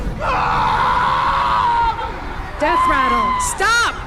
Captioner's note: screaming